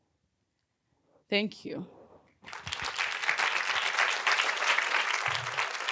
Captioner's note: audience applauding